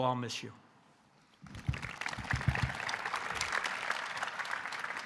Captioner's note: audience applauding